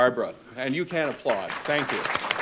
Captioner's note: applause